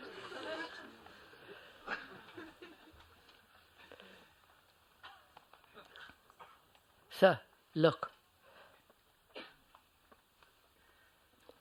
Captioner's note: laughter